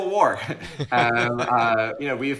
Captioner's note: laughs